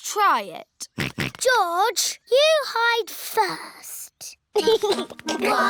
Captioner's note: snorts; chuckles